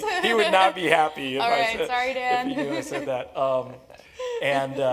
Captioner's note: laugh